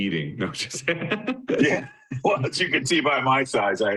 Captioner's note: both chuckling